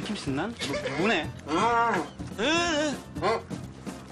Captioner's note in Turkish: Konuşmaya çalışır sesler çıkarır